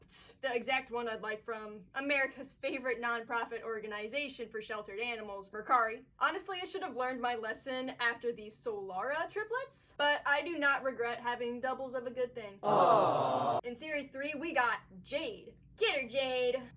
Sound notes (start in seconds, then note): 12.6 crowd aww